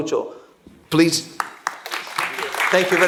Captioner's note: applause